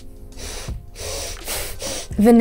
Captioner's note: sniffing